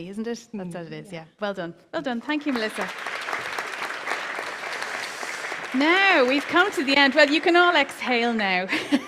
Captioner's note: applause